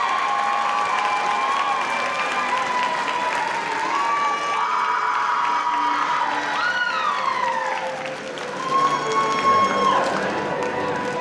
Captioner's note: audience cheering; applause